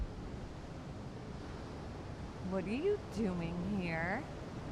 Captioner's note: none